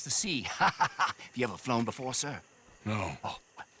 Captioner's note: laughs